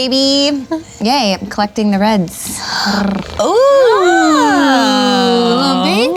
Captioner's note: mimics cat purring